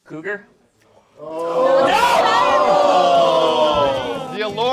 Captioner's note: groans